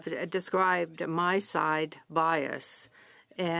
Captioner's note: speaking French